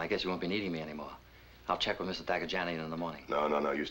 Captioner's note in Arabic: يتمتم